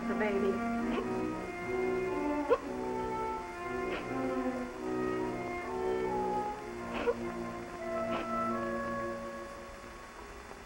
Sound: music and crying

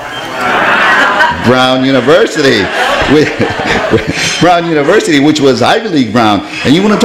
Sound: laughs

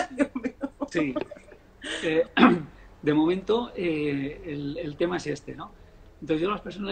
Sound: laughs

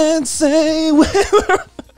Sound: laughing

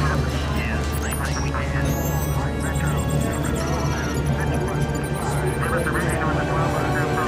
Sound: mission chatter

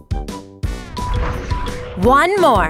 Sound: upbeat music; wind whooshes

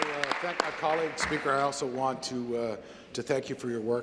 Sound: applause

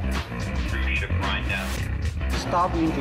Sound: man Over Radio

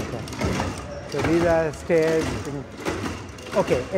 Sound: feet clatter

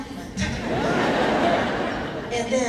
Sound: laughing

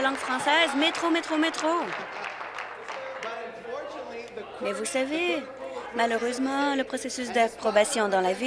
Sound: applause

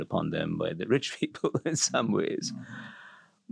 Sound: laugh

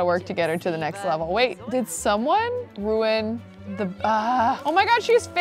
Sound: groans

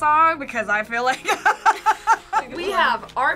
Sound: laughs

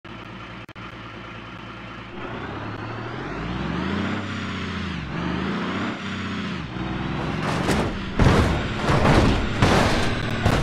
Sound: engine And Crash Noises

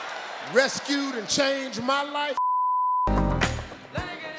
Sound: beep; hip-hop music

